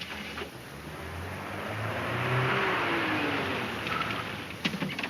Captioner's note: vehicle engine roaring